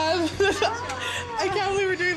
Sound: laughs

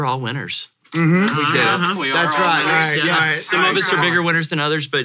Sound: mumbling, and tepid clapping

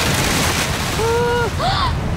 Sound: gasps

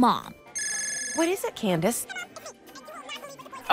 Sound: cell phone ring

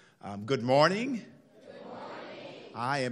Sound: crowd

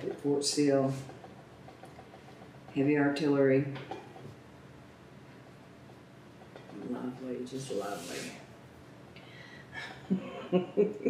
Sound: laughs

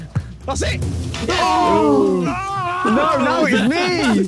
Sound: Tobi groaning; Sidemen oohing

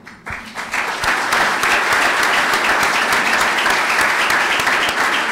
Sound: clapping

